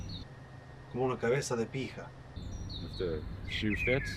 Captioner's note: Miguel speaking Spanish